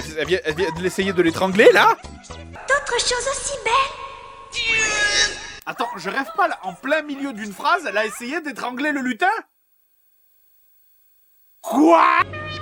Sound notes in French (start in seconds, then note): 4.2 cri de douleur du lutin